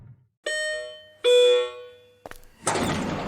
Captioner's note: ding Dong